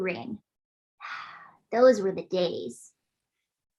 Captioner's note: sighs